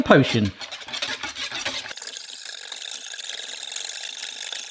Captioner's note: hand whisk rattles